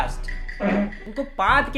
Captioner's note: prrrff